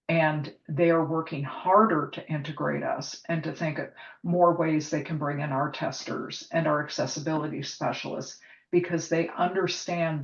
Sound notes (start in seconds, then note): none